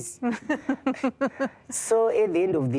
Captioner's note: giggling